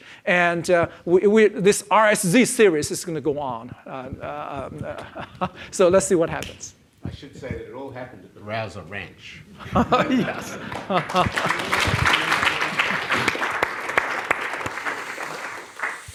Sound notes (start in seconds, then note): 9.5 laughs; 9.6 audience laughs and applauds